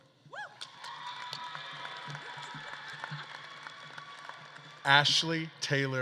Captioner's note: audience claps and cheers